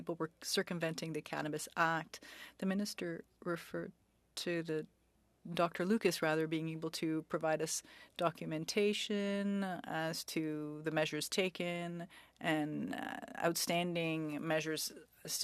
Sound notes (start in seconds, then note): 1.8 speaking French